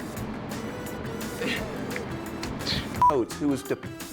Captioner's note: beeping; chuckles; speaks gibberish